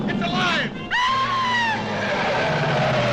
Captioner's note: tires screeching; woman screams